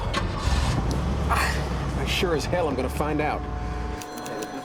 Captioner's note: ignition starts; exhales deeply